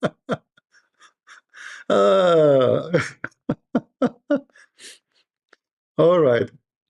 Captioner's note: Ketawa